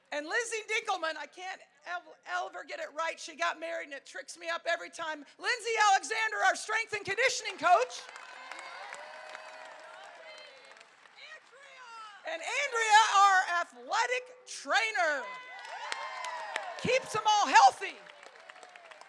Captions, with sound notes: And Lizzie Dinkleman, I can't ever get it right. She got married. And it tricks me up every time. Lindsay Alexander, our strength and conditioning coach. (crowd cheering) And Andrea, our athletic trainer, keeps them all healthy.